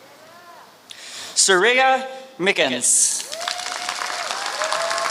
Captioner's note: applause